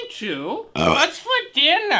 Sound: burp

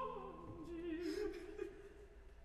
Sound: Rodolfo sobbing continues; singing in Italian continues

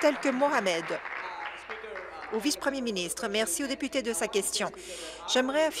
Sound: applause

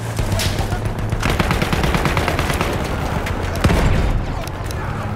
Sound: gunfire and motors

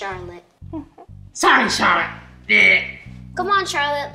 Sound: chatters

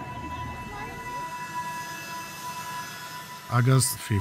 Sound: plane engines whirring

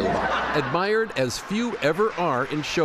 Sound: laughter

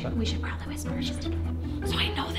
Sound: whispers

